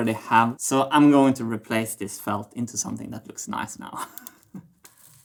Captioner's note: chuckles